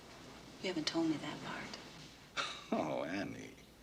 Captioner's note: chuckles